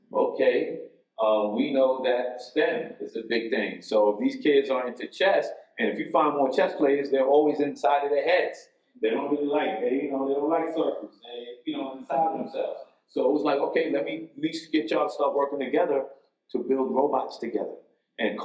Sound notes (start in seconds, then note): none